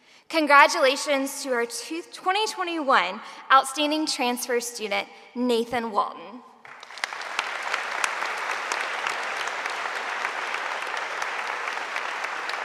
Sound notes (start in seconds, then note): 6.6 audience applauding